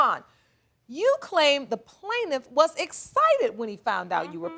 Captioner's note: none